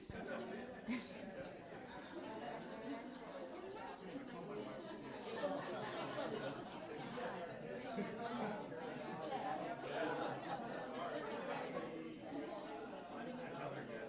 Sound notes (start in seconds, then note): 0.8 group laughing; 1.5 attendees talking